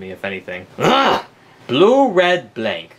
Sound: Luigi groans

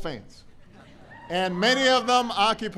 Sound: laughter

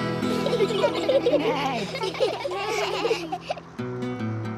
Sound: all giggle

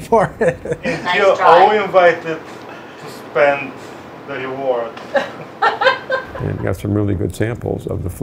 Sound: woman laughs off-screen

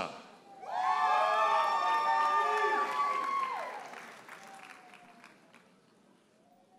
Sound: audience hollers and applauds

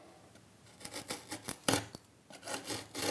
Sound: scratching noises

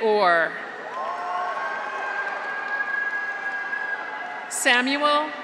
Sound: graduates cheer; audience applauds

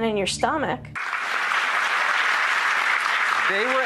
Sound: applause

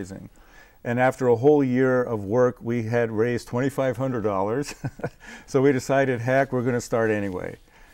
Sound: laughing

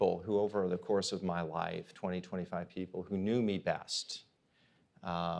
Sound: none

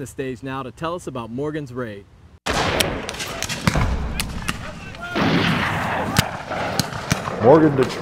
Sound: canon shots

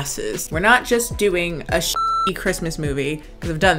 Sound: beep

